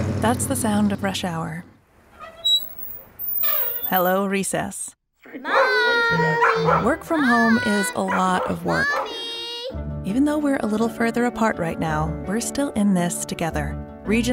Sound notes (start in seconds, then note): 2.1 squeak; 5.4 barking